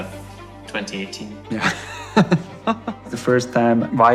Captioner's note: chuckles